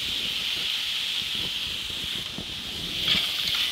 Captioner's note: sizzling